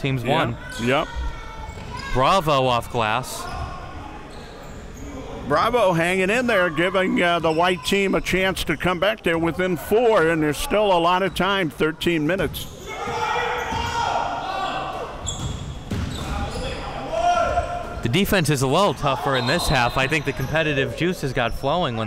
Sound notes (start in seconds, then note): 12.8 players yelling